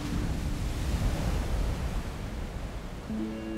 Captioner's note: waves crash; serene music